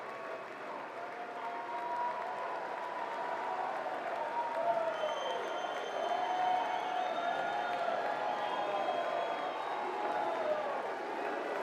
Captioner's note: applause